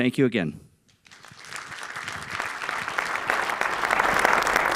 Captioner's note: applause